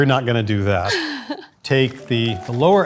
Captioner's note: laughs